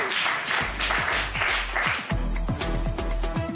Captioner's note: applause